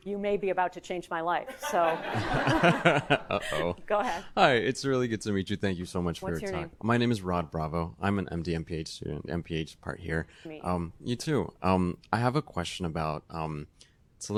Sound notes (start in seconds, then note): 1.5 audience laughing; 1.5 laughs